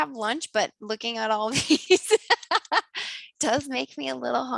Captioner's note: laughs